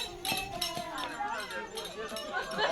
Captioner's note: cheers and laughter